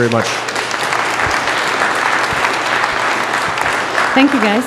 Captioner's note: audience applause